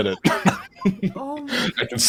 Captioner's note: laughing